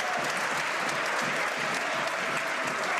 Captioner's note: some Applause